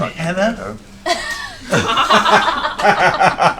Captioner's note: laughter